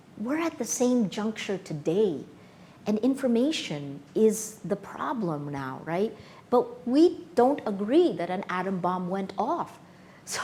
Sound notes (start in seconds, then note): none